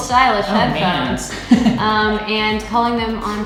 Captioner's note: laughing